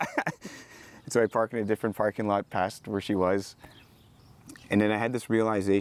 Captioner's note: laughs